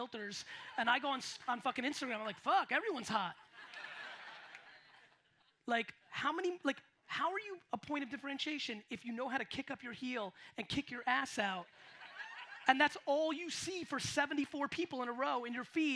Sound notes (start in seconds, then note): 3.4 audience laughs